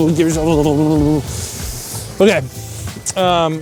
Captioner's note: shivering